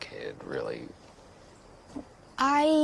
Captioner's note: footsteps approaching